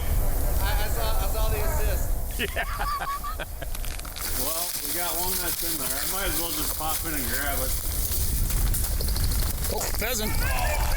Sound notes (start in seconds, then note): 2.3 laughs